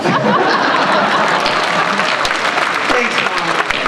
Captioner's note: applause